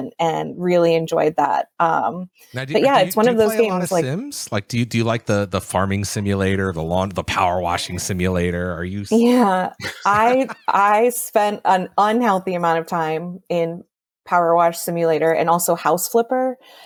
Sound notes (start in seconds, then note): 10.2 laughs